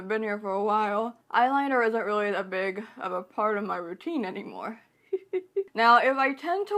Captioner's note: giggles